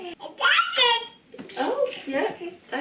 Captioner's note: baby babbling